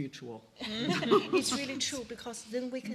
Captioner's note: laughing